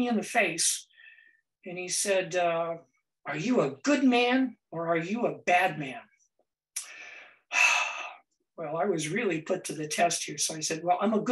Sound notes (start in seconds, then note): 7.5 sighs